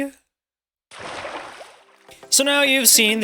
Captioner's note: splash!!